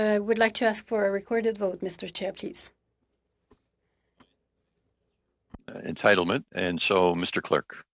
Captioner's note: speaking French